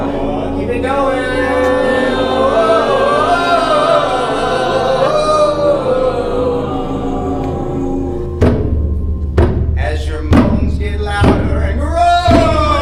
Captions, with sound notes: Keep it going! (crowd moaning) (drum beating) As your moans get louder and roar!